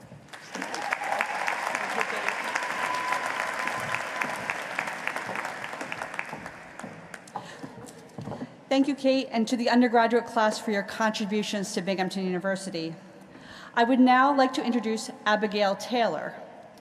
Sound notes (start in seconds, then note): 5.1 applause